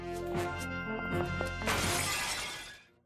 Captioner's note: glass shattering